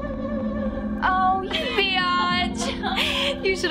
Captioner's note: Maya laughing